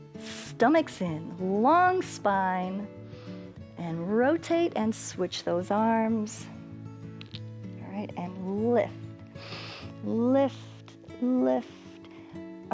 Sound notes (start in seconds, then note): 9.4 inhales